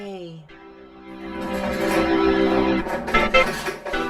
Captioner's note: crumbling